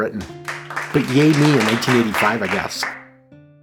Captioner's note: polite applause